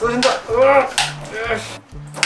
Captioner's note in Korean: 힘 주는 소리